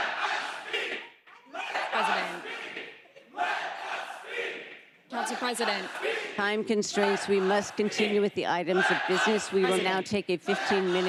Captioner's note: crowd chanting